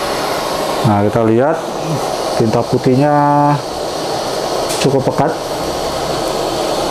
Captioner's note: printer machine sound